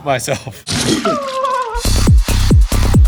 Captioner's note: poop squelches; whimpers; uptempo dance music